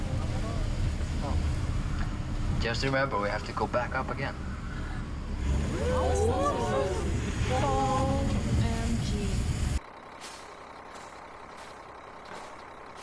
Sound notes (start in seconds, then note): 4.4 all gasping; 9.9 engine rumbling